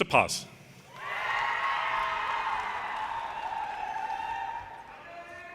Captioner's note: audience cheers and applause